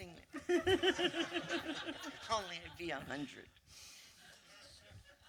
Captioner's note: laughter